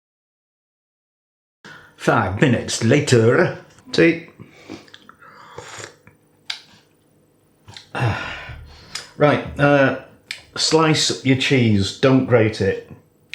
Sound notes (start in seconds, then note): 5.5 slurp